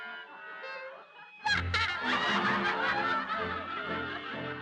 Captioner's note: people laughing